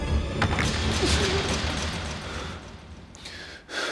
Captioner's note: door clanging